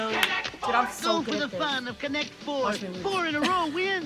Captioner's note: laughs